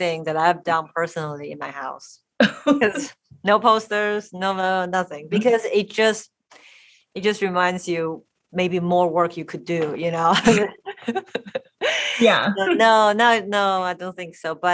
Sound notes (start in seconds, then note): 2.4 laughing; 10.3 laughs